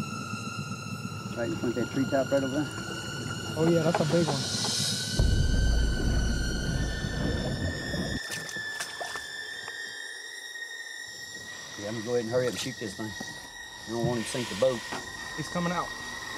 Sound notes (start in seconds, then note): 4.8 eerie music continues; 5.9 water burbling